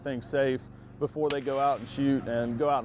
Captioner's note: gun fires